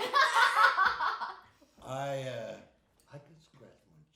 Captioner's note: laughing